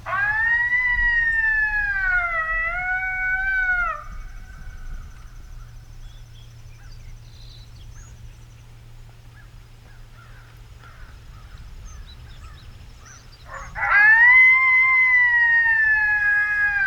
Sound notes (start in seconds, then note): 0.0 coyote call blaring; 6.3 birds chirping; 11.0 birds squawking; 13.5 coyote call blaring